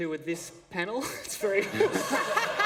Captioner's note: laughter